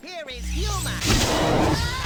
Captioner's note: wazoosh